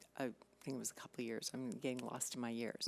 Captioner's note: none